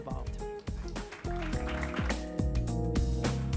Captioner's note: applause